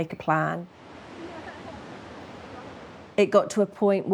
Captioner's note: laughs